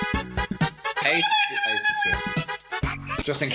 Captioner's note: jazzy music; more high-pitched ranting; jazzy music